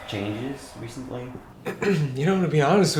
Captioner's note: clears throat